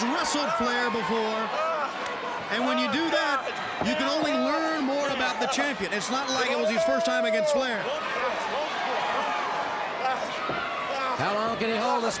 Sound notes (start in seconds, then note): 8.4 crowd cheering